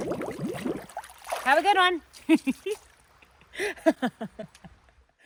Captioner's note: laughing